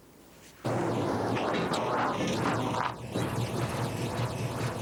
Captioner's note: car engine rumbling